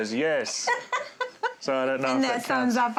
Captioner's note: laughter